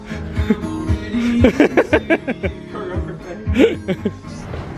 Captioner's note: gentle music; laughing